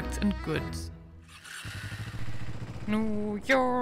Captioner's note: motorbike revving